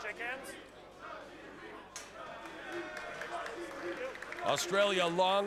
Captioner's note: crowd chanting